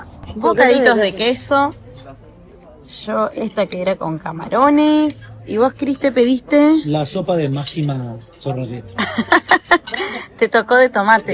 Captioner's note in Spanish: risas